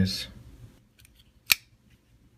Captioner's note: click